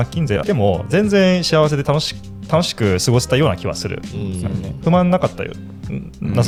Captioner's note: laughs